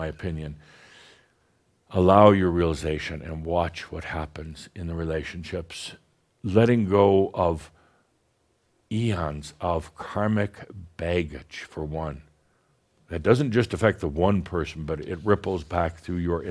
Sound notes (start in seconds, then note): none